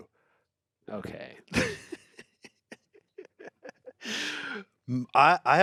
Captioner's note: everyone laughs